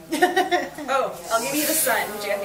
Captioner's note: laughs